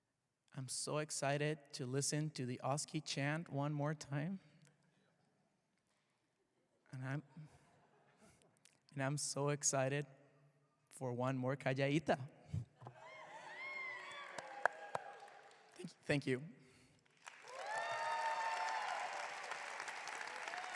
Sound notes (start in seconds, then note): 10.8 speaks foreign language; 17.0 students clapping